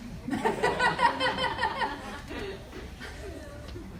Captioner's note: laughs